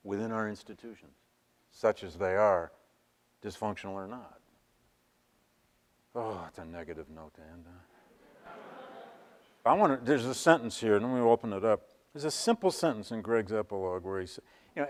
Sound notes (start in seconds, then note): 8.1 audience laughs